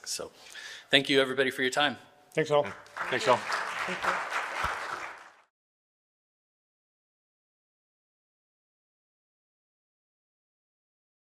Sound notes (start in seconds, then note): 2.7 applause